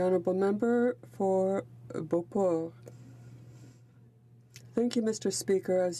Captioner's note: speaking french